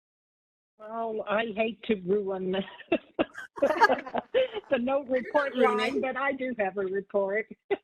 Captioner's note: laughter